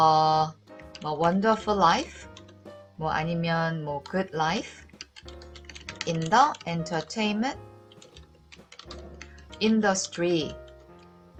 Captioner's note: typing